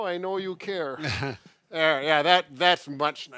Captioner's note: laughs